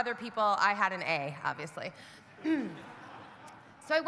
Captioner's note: clears throat; audience laughing